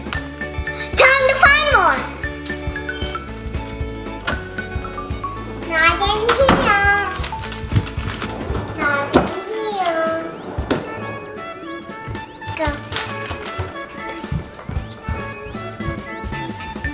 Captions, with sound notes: Time to find more. (door opening) - Not in here. (drawer opening) Not in here. (drawer closing) Go. (upbeat music)